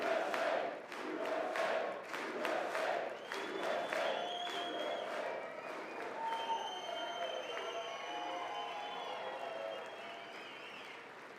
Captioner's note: audience chants "USA"